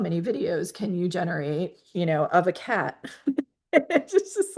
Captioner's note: laughs